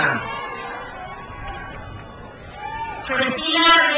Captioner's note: crowd cheers